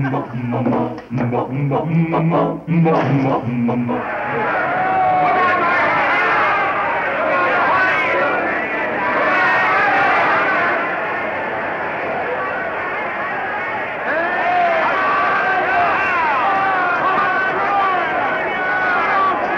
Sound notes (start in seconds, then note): 4.7 crowd cheering